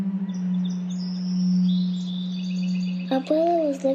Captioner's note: birds chirping